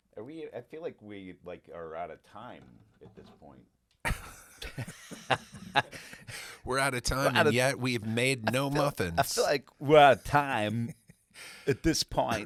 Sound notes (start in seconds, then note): 4.3 laughing